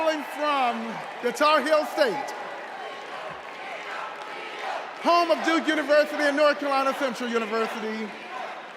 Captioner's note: applause